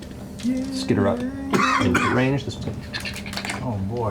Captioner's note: skittering